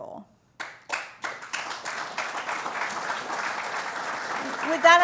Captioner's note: applause